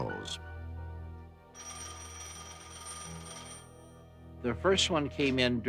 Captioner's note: phone ringing